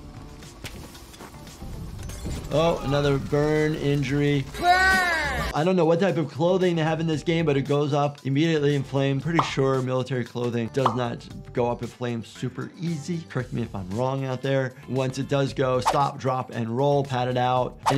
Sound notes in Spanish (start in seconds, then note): 2.1 Molotov explotando; 3.1 fuego crepitante